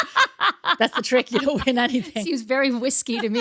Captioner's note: both laughing